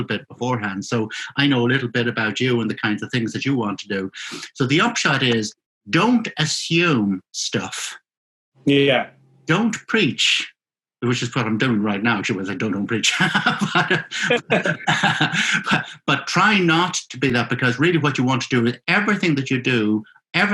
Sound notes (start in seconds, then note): 13.0 laughing